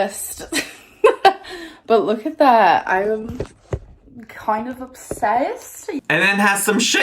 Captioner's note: laughs